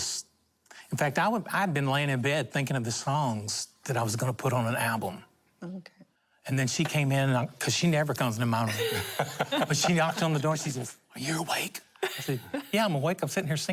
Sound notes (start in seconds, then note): 8.6 laughter